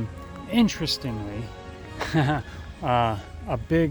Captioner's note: laughs